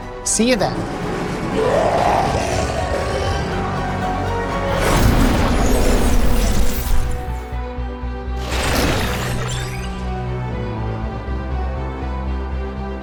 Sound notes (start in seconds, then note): 1.0 snarl in the distance